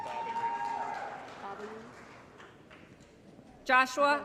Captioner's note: applause & Cheering